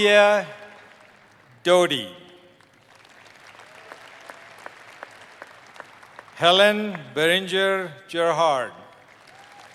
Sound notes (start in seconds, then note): 0.0 applause